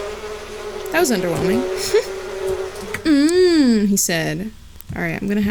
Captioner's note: chuckles